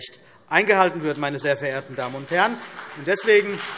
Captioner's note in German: Beifall CDU und BÜNDNIS 90/DIE GRÜNEN